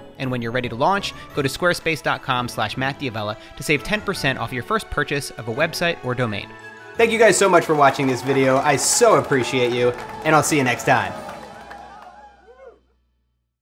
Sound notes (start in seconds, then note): 7.0 applause; 9.5 audience cheers